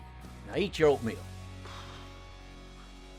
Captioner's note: sighs